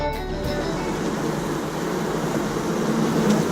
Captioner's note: buzzing